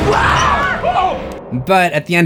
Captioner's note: screams